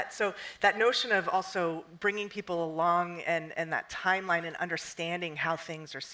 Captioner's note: none